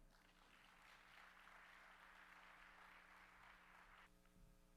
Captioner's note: audience applauds